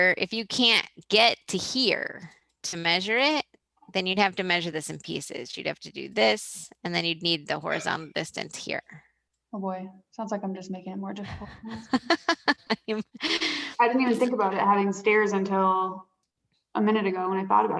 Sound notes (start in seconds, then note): 11.2 laughs